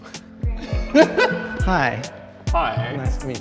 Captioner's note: laughs